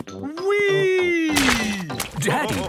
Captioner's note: splashes